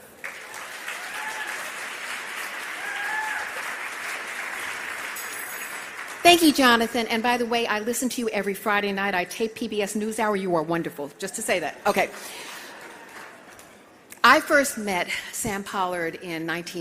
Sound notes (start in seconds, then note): 6.0 applause